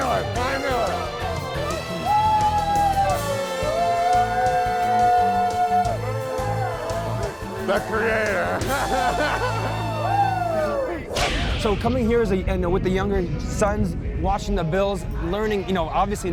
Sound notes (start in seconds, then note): 2.8 cheering; 5.9 booing; 6.4 laughs